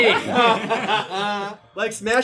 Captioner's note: laughs